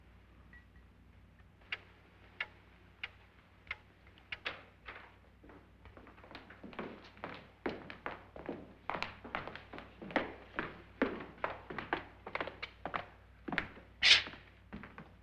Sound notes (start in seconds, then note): 1.4 clock ticking